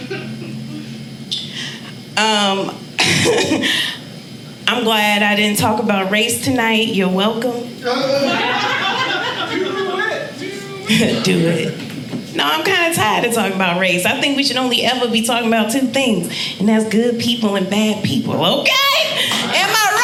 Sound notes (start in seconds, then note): 3.7 laughing; 7.8 audience laughing